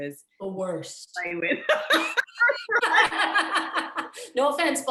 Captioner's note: laughter